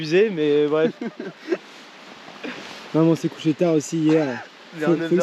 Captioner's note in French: rire